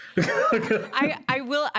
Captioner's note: laughs